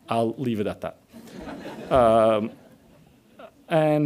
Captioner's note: audience laughs